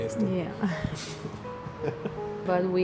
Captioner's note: laughter